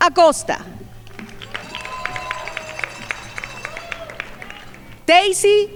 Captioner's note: crowd applauding